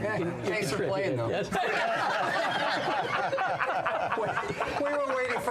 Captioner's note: laughter